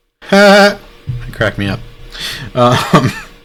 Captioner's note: laughs